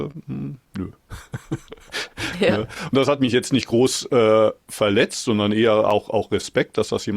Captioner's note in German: gelächter